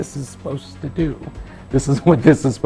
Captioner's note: laughs